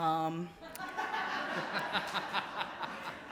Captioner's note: laughter